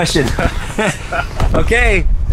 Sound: laughs

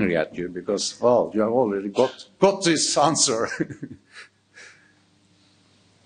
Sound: chuckling

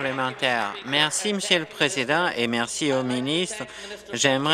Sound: applause

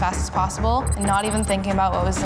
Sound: digital beeping

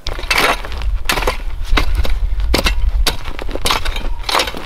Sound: rake scraping

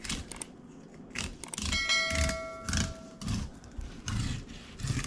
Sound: bell ringing

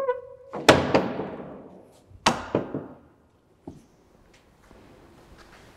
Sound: door gently closes

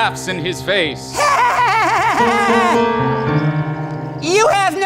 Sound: laughing

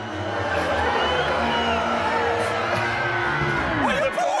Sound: crowd booing

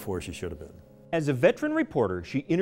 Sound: voiceover

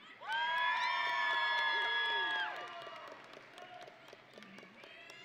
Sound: audience and graduates cheering

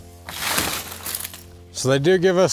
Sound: wrappings peeling

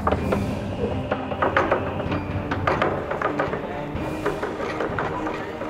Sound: table shaking

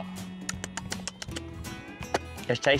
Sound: smacking lips

